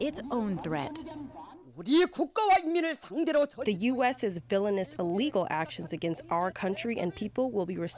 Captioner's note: through translator